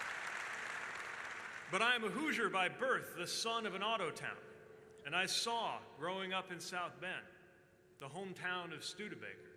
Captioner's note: applause